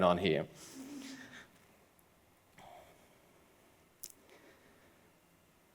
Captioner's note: laughs